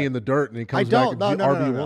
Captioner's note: laughter